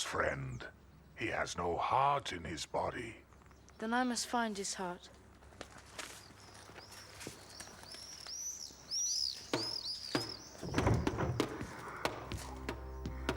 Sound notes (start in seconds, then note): 8.8 birds chirping; 10.2 drumming